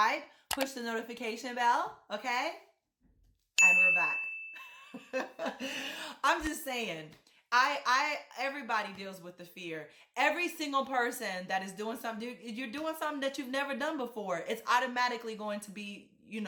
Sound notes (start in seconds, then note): 3.6 bell clings; 5.4 laugh